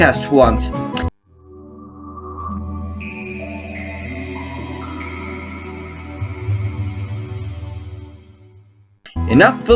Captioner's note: Dreamcast Startup Sounds